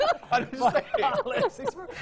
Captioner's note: laughing